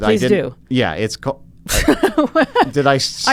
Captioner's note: laughs